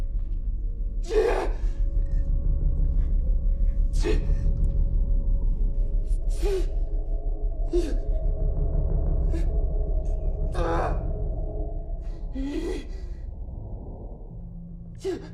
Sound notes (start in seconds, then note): 1.2 Mark moaning; 4.3 gentle music; 7.7 Mark moaning; 12.5 gentle music